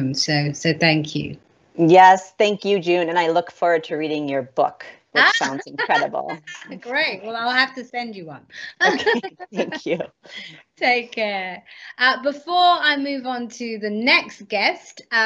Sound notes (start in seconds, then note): 5.2 laughs; 8.8 both laughs